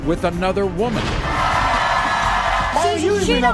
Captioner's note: audience cheering